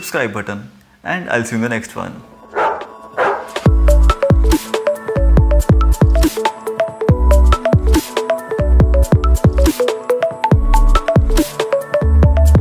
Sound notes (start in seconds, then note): 3.1 dog Bark